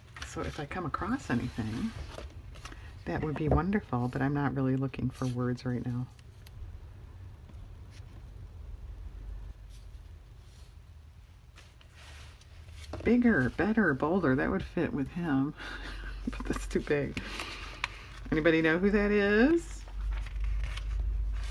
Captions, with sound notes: so if I come across anything, that would be wonderful, but I'm not really looking for words right now "bigger better bolder," that would fit with him (laughs), but it's too big anybody know who that is?